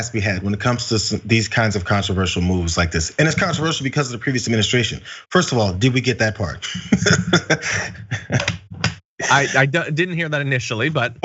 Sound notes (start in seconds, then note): 6.6 laugh